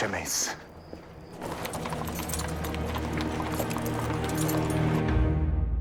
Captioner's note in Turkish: At arabası sesi